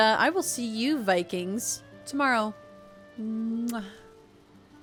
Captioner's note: kiss